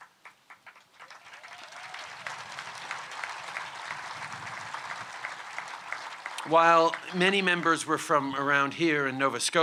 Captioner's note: cheers & applause